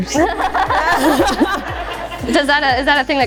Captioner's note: all laughing